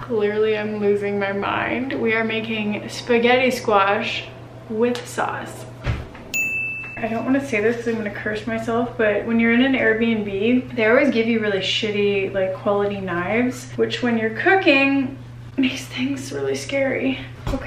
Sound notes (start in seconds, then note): 6.3 ding